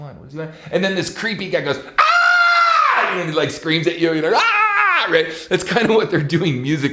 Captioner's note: screams